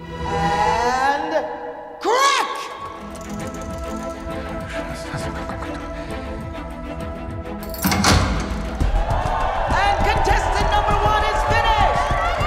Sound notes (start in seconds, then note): 2.8 suspenseful music; 3.0 dials clicking; 4.6 whispering in foreign language; 7.6 safe door clangs; 8.5 crowd cheering